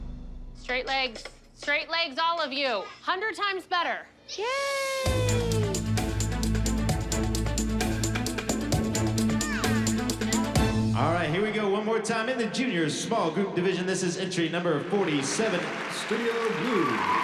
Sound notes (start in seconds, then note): 5.0 dramatic music plays; 9.1 indistinct chatter